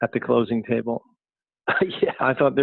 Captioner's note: laughing